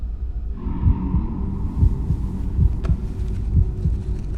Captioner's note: ominous heart beat effect